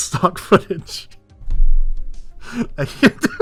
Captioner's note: thud